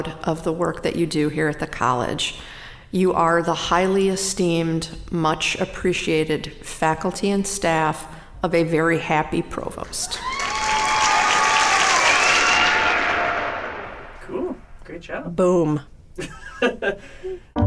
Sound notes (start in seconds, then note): 10.1 applause, cheering; 16.2 laughing